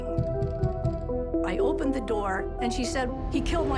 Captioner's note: pounding on door